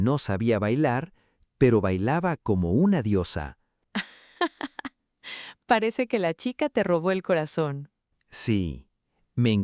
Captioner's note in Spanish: risas